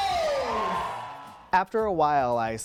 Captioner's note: cheering